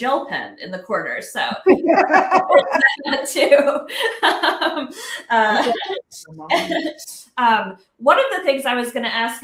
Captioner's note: laughs